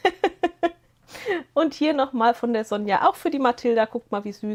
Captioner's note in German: gelächter